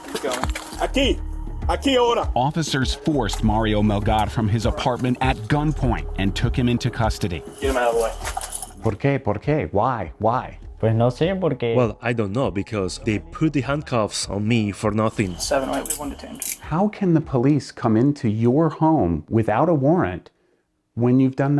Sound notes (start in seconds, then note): 0.2 policeman 1 speaks in Spanish; 8.0 speaks in Spanish